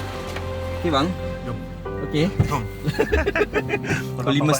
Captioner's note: laugh